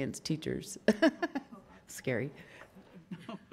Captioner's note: laughs